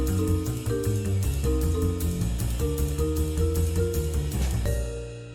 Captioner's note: none